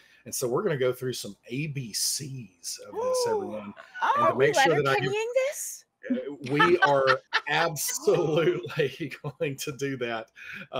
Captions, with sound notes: And so we're gonna go through some ABCs of this, everyone. (players gasping) - Are we letterkennying this? - We are (laughs) absolutely going do that.